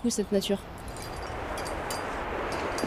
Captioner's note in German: Metallisches Klirren